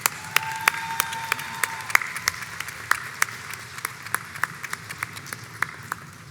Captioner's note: crowd applauds and cheers